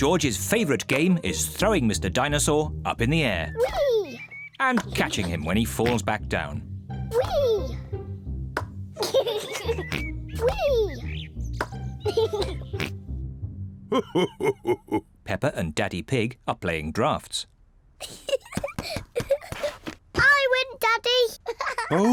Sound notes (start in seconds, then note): 9.0 giggles; 12.0 giggles; 13.9 laughs; 18.0 laughs